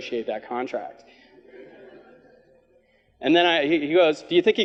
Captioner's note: audience laughs